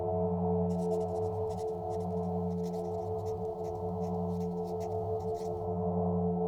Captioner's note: pen on paper writing sound